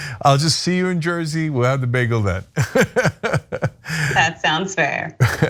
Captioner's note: laugh